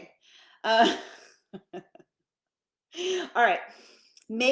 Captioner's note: laughing